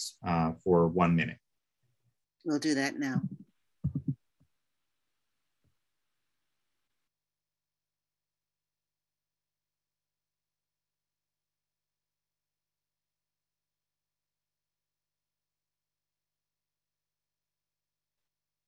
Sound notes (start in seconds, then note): 7.1 moment of silence